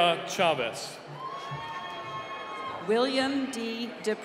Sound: cheering

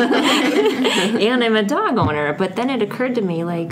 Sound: laughs

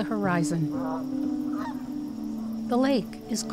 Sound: geese quack

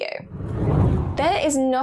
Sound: air whooshing

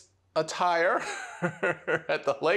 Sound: laughs

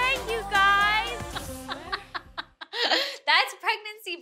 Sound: laughs

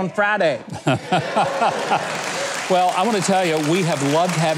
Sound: audience applauding

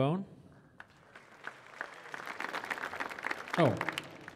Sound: audience applauding

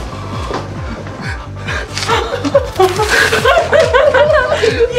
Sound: both laughing

